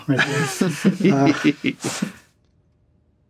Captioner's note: all laughing